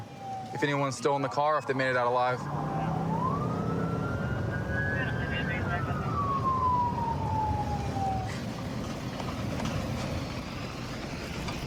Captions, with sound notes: if anyone's still in the car, if they made it out alive. [police sirens blaring] [dispatch chatter]